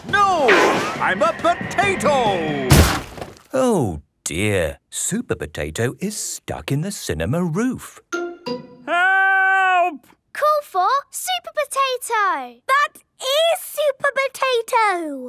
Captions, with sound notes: No, I'm a potato! (crashes) - Oh, dear. Supper Potato is stuck in the cinema roof. - Help!! - Call for Super Potato! - That is Super Potato!